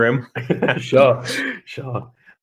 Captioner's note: laughing